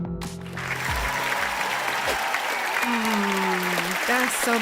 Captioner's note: sound of applause